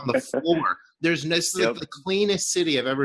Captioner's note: laughs